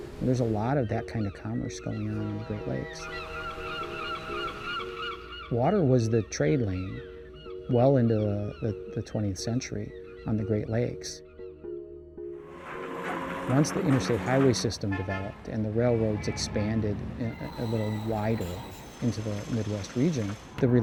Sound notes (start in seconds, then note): 3.5 seagulls cawing; 12.5 trains whirring; 12.5 car horns honking